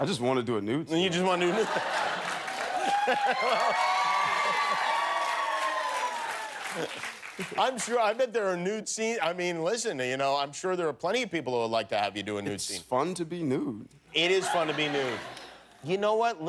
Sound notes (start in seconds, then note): 3.5 cheers and applause